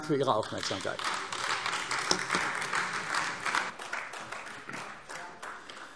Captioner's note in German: Beifall AfD